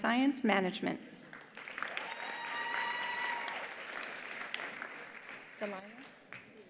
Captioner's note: attendees applauding; attendees cheering